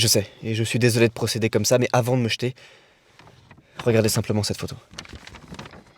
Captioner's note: none